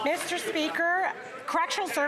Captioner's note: some Applause